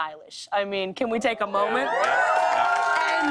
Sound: cheers and applause

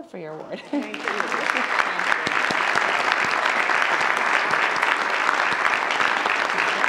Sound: audience applauds

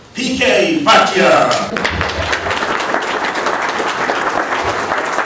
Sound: applause

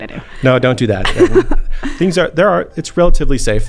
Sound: laughing

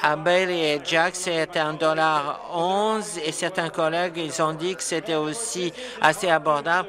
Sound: applause

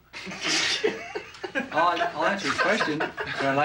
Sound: laughing

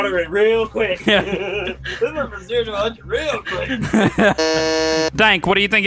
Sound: buzzes

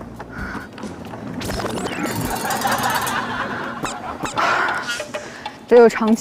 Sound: heavier breathe

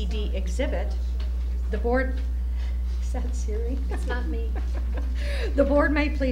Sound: chuckling

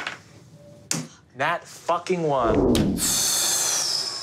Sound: motor powering down; sighs

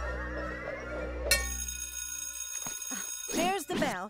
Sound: bell rings

